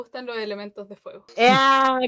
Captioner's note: mumbling swears